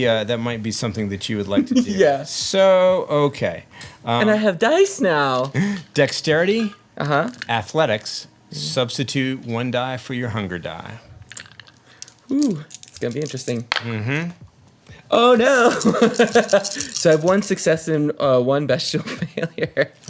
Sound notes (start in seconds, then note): 15.3 laughs